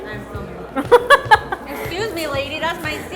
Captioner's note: laughs